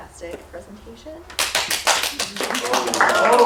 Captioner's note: applause